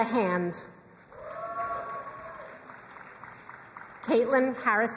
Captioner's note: crowd cheering and applauding